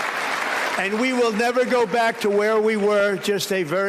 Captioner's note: applause